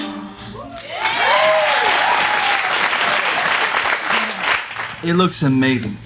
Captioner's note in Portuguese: Aplausos